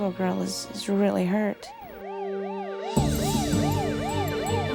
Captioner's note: sirens wailing